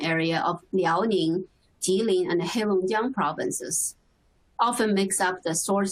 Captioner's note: Chinese speaking